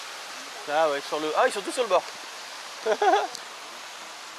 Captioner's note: laughs